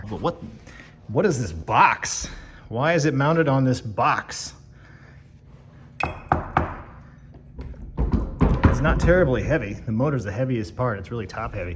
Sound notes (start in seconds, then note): 6.2 knocks on wood